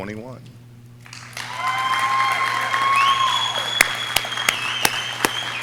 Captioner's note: audience cheering